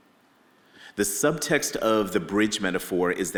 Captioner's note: none